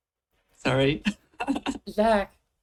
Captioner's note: laughs